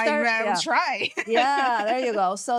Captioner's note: laughing